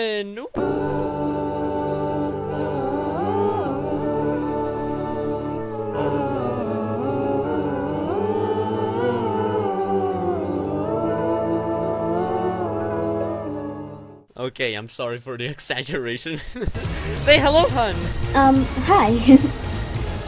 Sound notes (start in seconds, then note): 16.3 nervous laughter